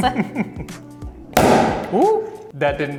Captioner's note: bottle pops suddenly